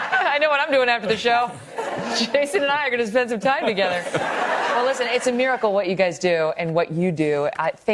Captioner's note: laughter